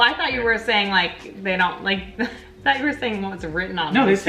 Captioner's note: laughs